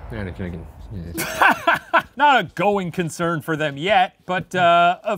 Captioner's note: laughing